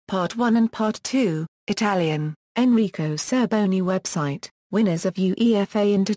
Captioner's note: Italian